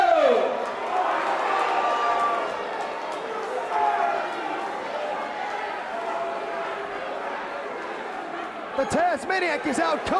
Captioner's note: crowd chatter